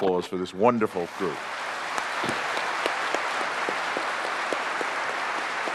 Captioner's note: applause